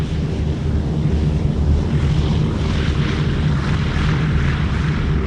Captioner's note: airplanes fly over